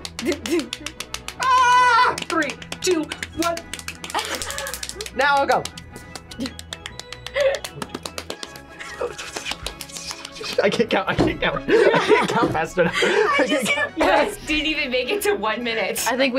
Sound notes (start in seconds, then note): 0.1 laughs; 1.3 yells; 7.3 both laugh; 7.3 laughs; 12.8 laughs